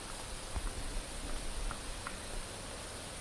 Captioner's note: clacking